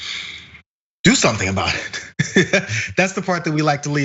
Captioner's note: laugh